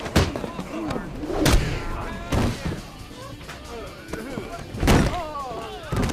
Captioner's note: knee thudding; punches smacking; head thudding